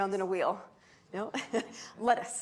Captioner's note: chuckles